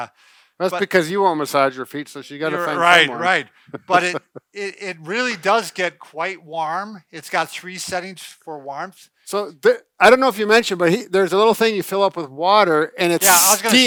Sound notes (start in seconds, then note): 3.9 laughing